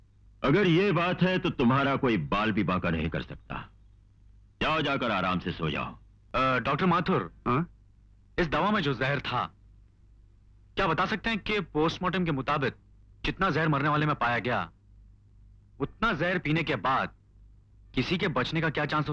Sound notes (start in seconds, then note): none